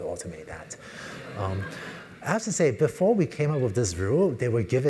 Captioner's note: laugh